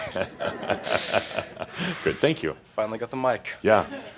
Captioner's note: some laughter and Adamus chuckles